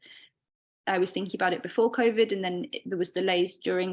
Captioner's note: none